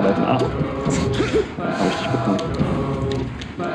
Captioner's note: intense breathing; ingame crowd cheering for the bird